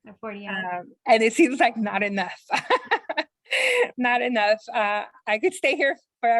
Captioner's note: chuckles